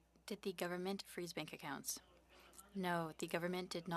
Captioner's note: speaking French